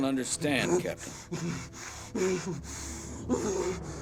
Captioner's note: shuddering, grunting